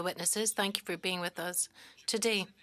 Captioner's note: speaking French